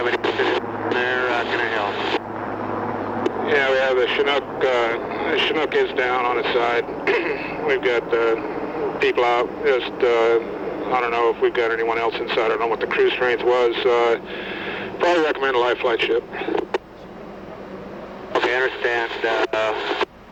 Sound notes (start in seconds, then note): 0.0 static